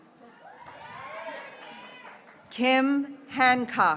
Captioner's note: graduates cheering